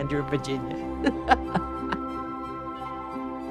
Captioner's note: laughs